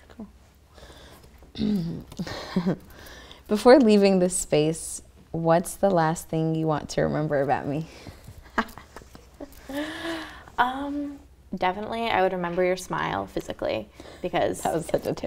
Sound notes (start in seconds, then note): 1.5 clears throat; 8.4 both laughing